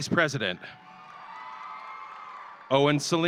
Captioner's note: audience cheering